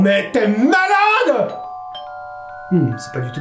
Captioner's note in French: bruit de sonnette d'entrée